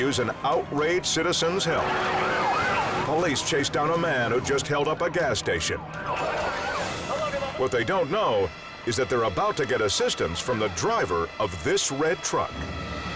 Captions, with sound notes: could use an outraged citizen's help. (siren wailing) Police chase down a man who just held-up a gas station. What they don't know is that they're about to get assistance from the driver of this red truck.